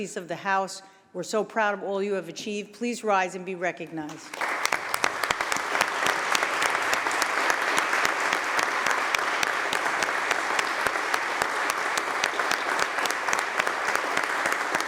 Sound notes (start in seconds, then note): 4.0 applause